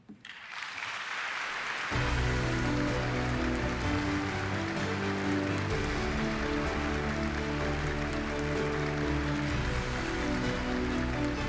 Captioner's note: applause